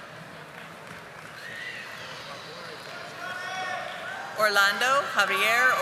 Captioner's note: audience applauding